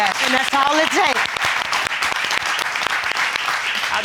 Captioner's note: all applauding